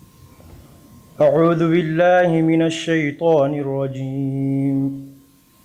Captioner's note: praying in Arabic